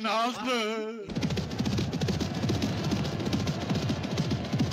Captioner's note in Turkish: atlarin koşma sesleri̇ duyulur